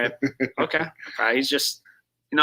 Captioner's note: chuckles